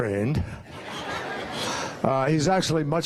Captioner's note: laughter